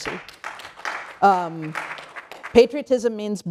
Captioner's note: applause